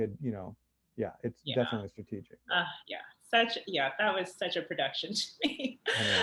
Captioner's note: laughs